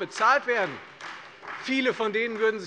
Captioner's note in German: Beifall Freie Demokraten